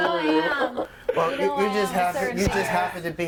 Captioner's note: overlapping chatter